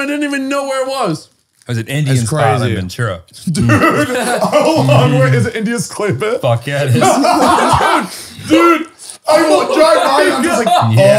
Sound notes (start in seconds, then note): 3.5 laughs; 6.8 they all laugh